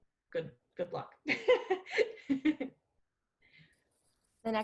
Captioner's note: laughs